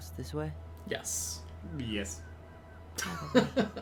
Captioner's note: laughs